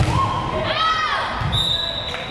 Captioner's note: player shouting; whistle blares